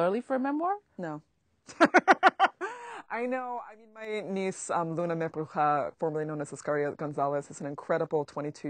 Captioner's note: laughs